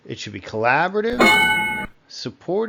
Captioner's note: ding